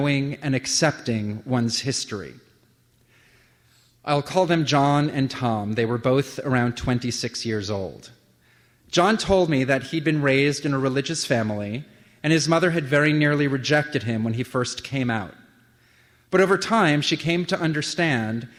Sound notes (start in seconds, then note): none